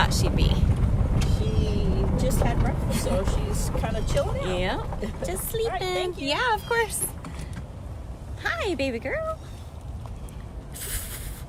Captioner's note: chuff